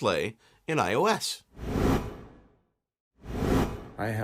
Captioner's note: air whooshing